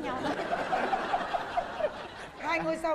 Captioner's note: laughing